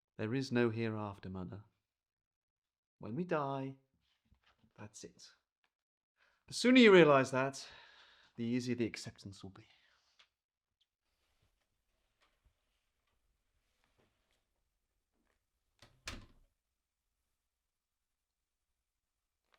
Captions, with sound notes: There is no here after mother. When we die, that's it. The sooner you realize that, the easier the acceptance will be. [Door closes]